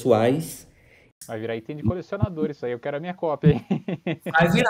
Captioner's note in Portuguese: risos